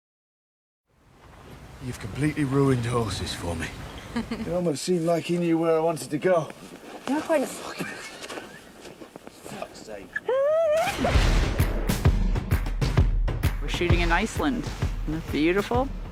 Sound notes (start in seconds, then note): 7.7 contained laughter; 11.8 upbeat music plays